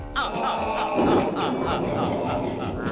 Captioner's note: boom